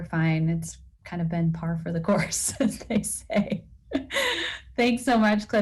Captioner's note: laugh